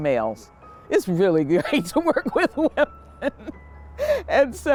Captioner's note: laughing